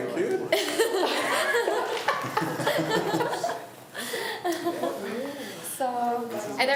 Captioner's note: laughs